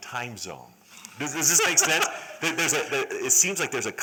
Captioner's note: laughter